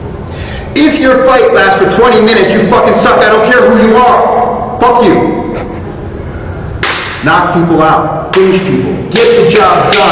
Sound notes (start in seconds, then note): 6.8 fist smack!; 6.8 hand clap; 9.1 hand clap